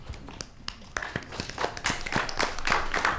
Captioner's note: applause